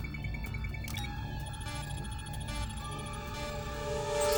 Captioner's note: beeping